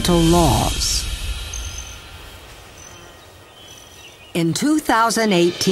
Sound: nature sounds

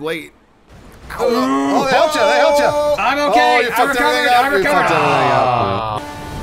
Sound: all exclaiming

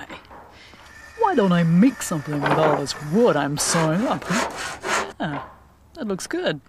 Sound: sawing wood

